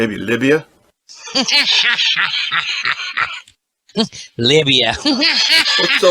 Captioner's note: laughs